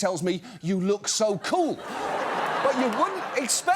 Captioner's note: laughter